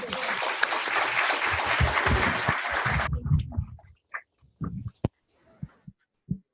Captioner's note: applause